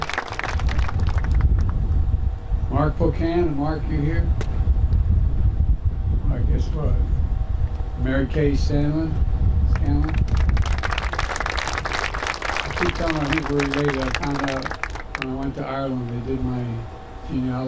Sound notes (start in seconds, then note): 0.0 applause; 3.3 cheering